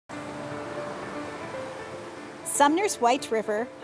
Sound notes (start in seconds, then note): 0.1 river rushing